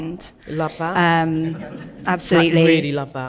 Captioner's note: audience laughing